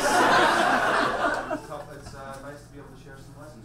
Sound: audience laughs

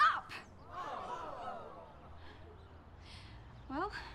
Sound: crowd oh's

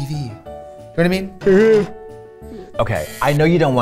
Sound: yawns

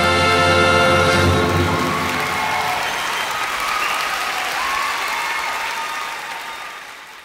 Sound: Gritos y aplausos

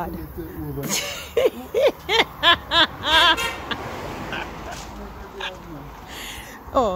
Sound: laughing

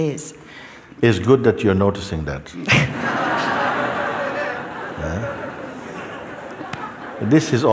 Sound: laughter

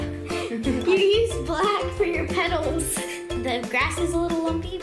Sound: laughs

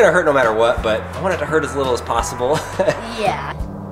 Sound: laughs

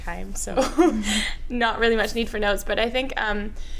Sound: laughs

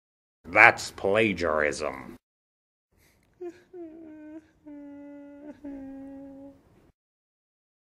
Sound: soft sobbing

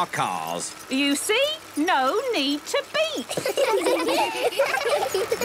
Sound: laughter

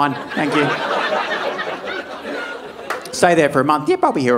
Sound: audience laughing

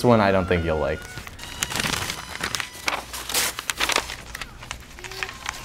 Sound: crinkling and ripping

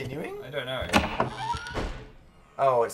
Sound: door creaks open

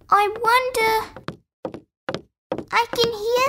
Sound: footsteps

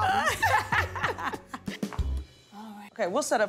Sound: laughs

